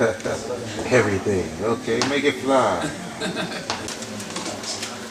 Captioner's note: laughs